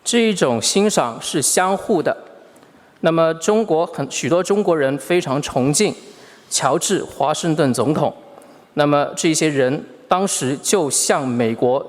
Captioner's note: speaking Mandarin Chinese